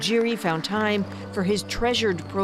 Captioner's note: applause